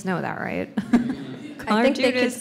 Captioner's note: laughs